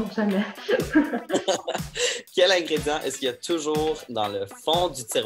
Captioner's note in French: rires